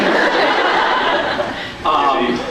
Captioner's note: laughs